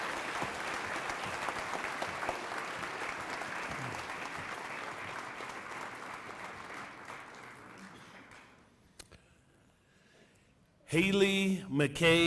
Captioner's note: cheering and applause